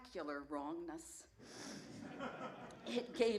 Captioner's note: laughter